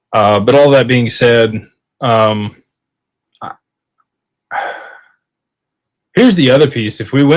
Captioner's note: sighs